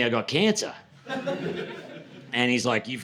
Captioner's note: laughter